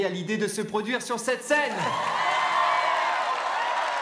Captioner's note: crowd clapping and cheering